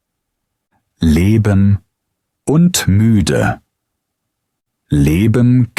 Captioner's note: tired